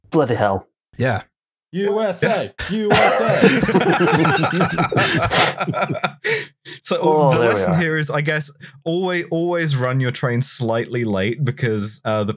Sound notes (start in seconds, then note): 2.8 laughter